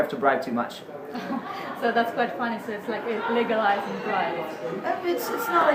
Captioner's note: laughs